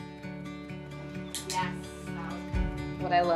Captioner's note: trainer clicking